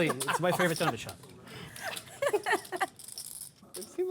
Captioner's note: lughter